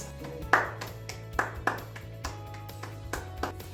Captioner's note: clapping